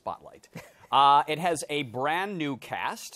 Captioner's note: chuckles